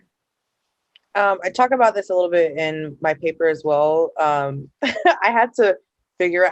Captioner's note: laughter